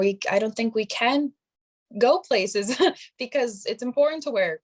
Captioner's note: chuckling